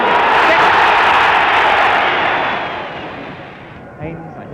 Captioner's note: crowd roaring